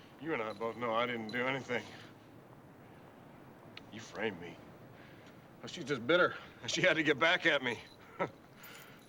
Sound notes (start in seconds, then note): 8.0 chuckles